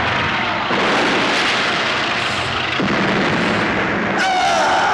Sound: explosion

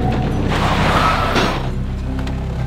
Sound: tires screech

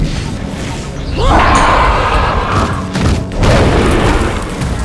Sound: Marceline yells

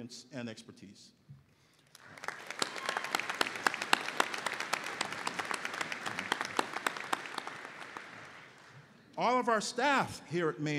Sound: applause

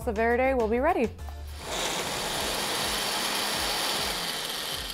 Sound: sound of blender whirring

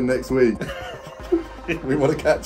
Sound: both laughing

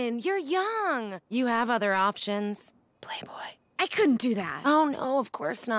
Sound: whispers

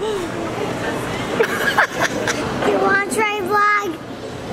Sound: laughing

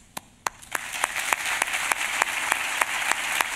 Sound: applause

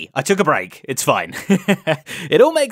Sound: chuckles

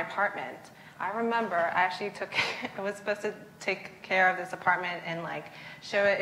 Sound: laughs

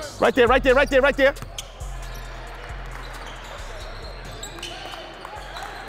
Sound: overlapping chattering

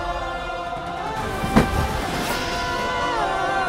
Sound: crash

